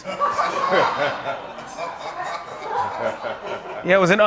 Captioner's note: laughter